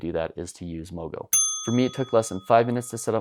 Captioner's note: dinging